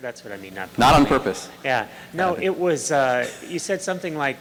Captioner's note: voiceover